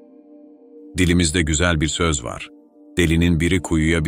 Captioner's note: Turkish